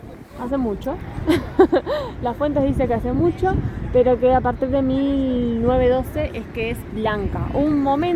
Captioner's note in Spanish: risas